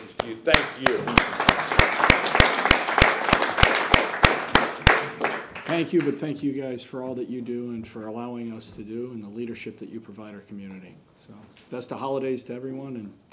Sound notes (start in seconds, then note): 3.6 applause